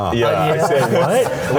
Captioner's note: group laughing